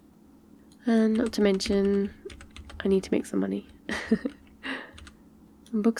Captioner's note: laughs